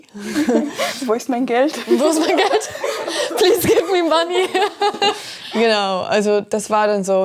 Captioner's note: everyone laughs